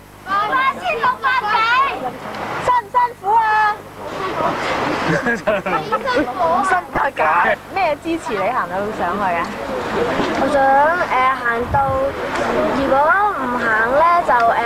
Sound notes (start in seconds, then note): 4.3 laughter